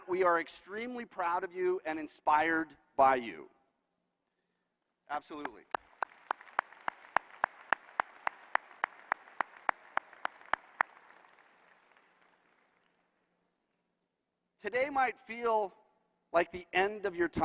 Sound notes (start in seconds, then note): 9.2 applause